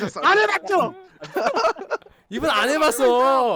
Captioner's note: laughing